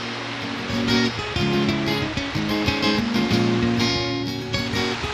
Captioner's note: sounds of rushing water